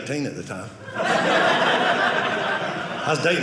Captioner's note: audience laughing